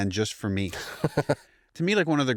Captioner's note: laughs